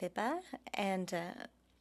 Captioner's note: speaking French